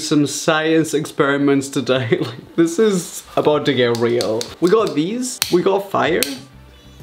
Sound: lighter makes sound

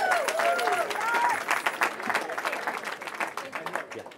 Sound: cheering

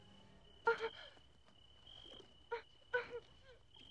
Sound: woman gasping

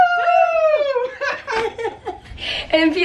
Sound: laughter

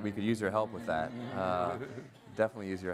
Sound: everyone laughs

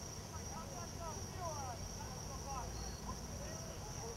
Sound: people talking

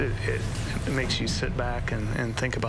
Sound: nats of attack 0

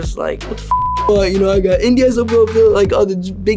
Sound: beep

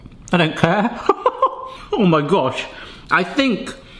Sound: laughing

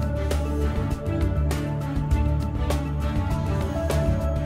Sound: circular saw whirring

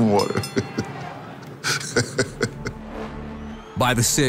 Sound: laughs

